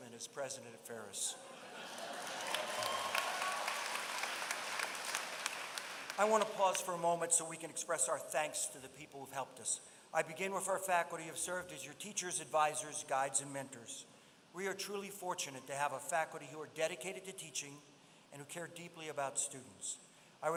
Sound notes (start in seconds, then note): 1.7 applause